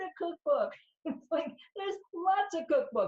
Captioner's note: laughs